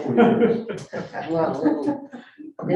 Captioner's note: people laughing